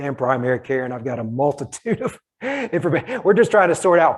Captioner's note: laughing